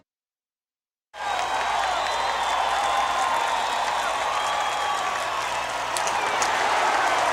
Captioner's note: crowd cheering